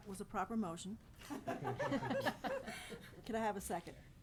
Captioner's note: all laughing